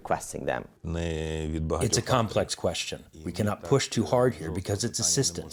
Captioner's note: through translator